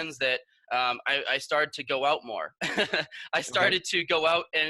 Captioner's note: laughs